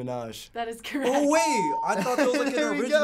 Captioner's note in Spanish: ding